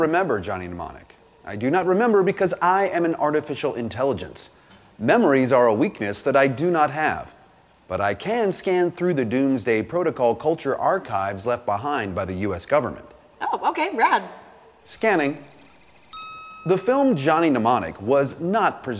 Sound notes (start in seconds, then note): 14.8 computer whirring; 14.8 ding